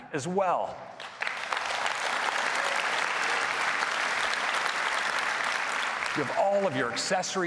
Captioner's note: applause